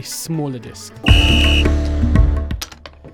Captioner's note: whistle blows